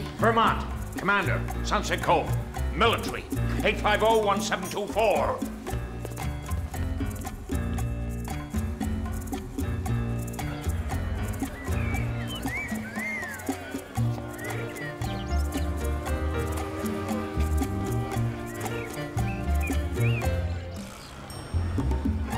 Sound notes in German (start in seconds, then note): 10.9 Leute reden im Hintergrund; 14.7 unbeschwerte Musik; 21.3 ding; 22.1 unbeschwerte Musik